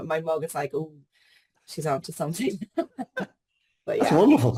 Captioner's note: laughs